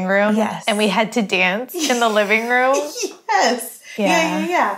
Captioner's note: laughing